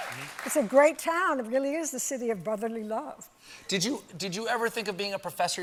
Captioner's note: applause